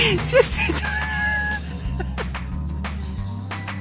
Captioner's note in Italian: risata